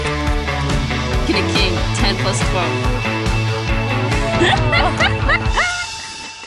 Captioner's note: does Hyena Laugh